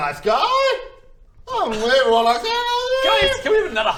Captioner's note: upset whineeeeeeeeee